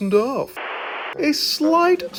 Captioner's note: static crackling